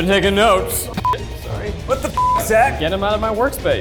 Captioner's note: beep